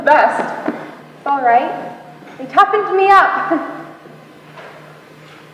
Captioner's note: laughs